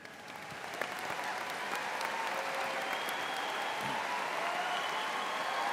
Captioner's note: audience cheering and applauding